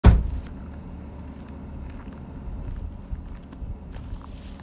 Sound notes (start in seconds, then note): 0.0 car door slams; 0.1 footsteps on gravel